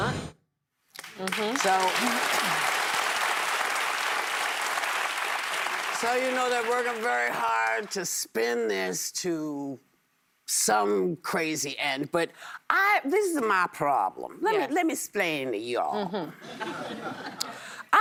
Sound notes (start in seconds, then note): 3.1 applause